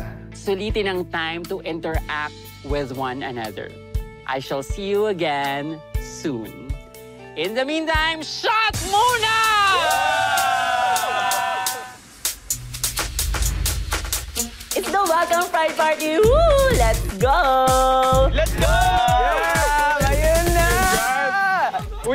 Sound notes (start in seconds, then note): 9.1 cheering; 11.7 upbeat music playing